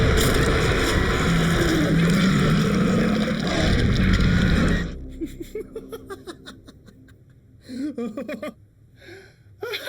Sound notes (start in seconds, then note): 0.0 shark roaring; 0.1 shark thuds; 2.2 Larry screaming; 3.8 teeth crunching; 5.3 Eric laughing